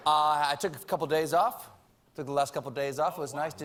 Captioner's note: laughter